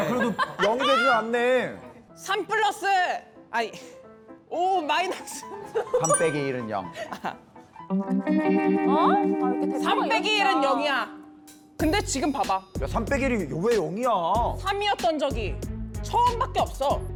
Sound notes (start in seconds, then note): 6.0 hint-giving sound effect